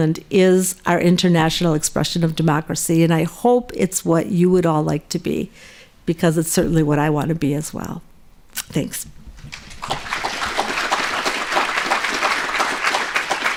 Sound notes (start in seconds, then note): 9.4 applause